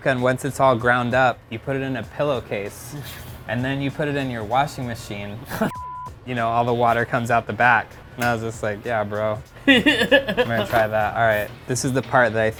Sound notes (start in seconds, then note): 5.4 laughs; 9.6 laughs